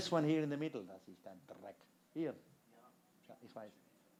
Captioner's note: non-english speech